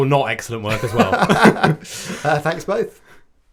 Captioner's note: laughing